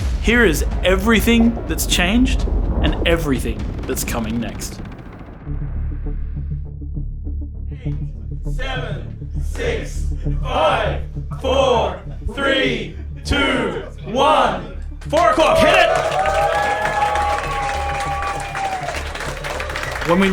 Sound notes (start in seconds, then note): 5.4 rhythmic synth music; 8.3 crowd; 17.5 cheers